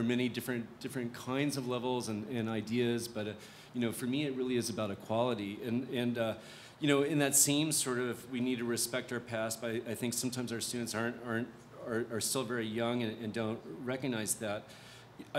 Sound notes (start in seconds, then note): none